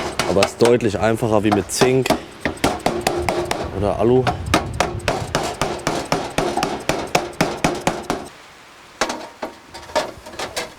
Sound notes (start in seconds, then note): 8.3 rain patters down